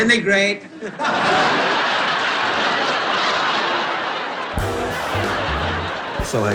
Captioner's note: laughing